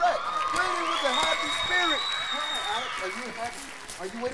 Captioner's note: crowd cheers